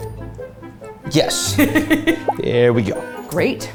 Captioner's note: laughing